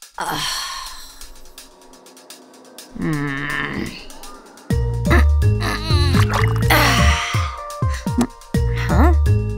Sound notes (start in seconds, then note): 0.1 sighs; 3.0 annoyed grunt; 6.2 plop; 6.7 sigh of relief